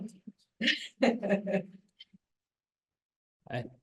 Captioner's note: laughs